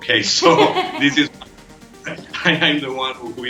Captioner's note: laughing